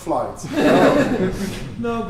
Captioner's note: laughter